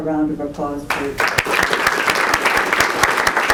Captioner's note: applause